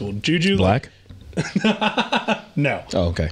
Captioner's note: laughing